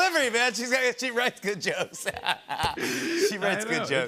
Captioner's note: laughs